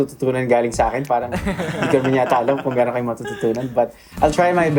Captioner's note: laughing